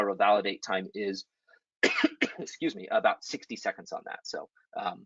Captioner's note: coughs